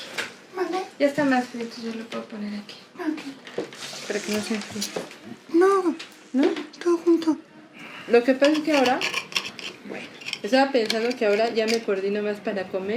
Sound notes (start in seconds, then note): 2.3 speaking in Spanish